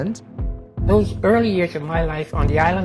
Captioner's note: soundbite of archived recording